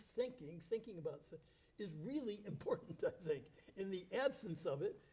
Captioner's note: chuckles